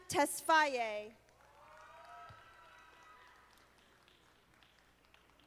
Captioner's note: audience applauding